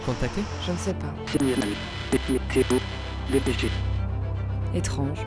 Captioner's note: scrambled voice